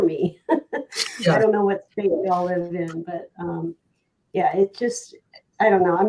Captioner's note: laughs